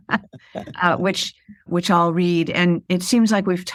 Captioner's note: laughter